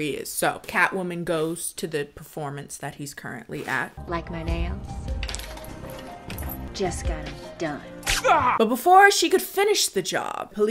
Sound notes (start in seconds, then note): 8.2 man groans